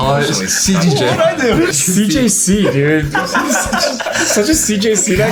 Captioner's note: everyone laughs